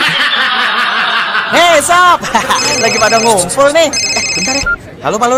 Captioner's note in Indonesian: tertawa